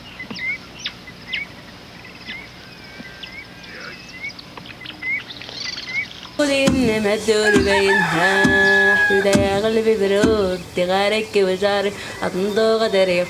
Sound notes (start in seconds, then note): 6.3 non-english speech